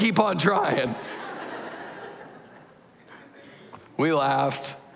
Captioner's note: laughter